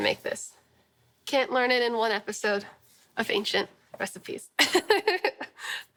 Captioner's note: laughing